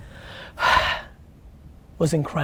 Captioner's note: exhales